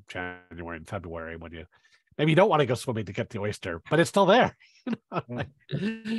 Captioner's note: laughs